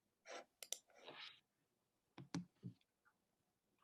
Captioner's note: mouse clicking